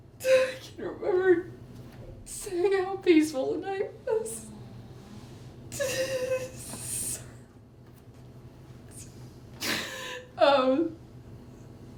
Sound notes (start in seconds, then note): 5.7 sollozando